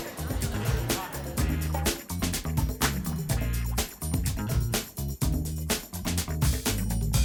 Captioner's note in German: leiser werdende Stimmen